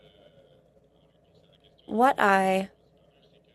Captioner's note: speaking French